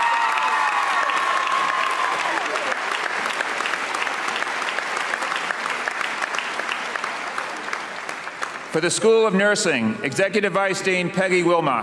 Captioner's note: cheers and applause